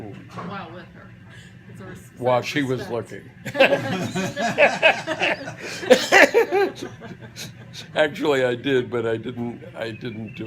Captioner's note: laughter